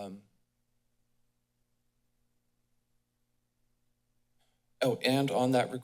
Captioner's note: silence